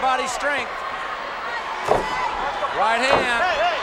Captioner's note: crowd shout